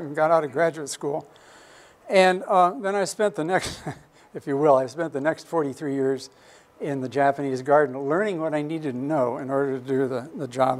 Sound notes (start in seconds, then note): 3.6 chuckles